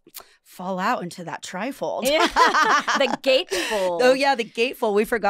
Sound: laughing

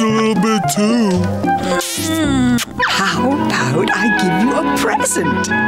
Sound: kissing

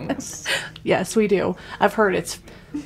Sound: laughs

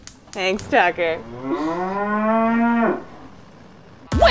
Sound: cow moos

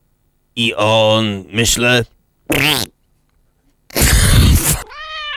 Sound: fart

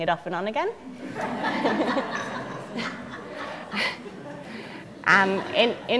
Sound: audience laughter

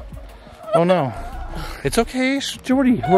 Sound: crying

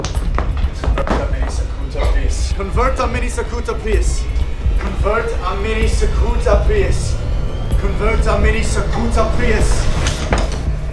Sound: chanting

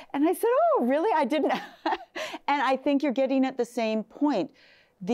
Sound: laughs

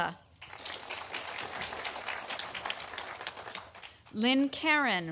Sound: audience applauding

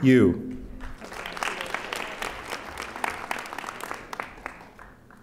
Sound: audience applauding

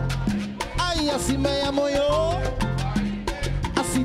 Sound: orquestra memmber speaking in Spanish

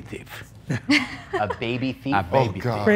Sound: laughs

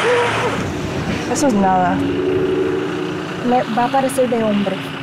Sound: speaking Spanish

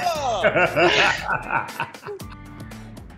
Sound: Erick laughing; bright music

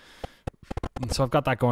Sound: distortion

